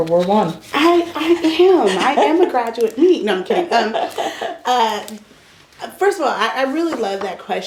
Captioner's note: laughter